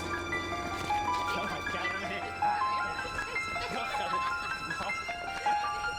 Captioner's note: laughing; speaking in foreign language